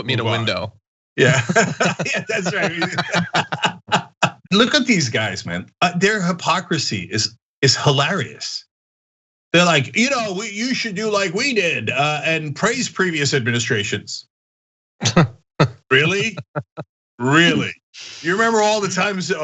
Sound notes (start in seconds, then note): 1.2 laugh; 15.8 laugh